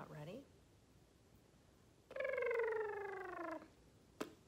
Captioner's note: blows raspberry